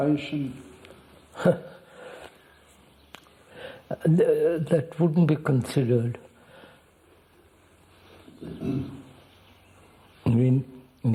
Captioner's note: laughs